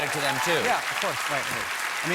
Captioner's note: applause